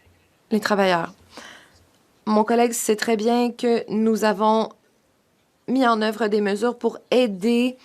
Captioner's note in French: voix de l'interprète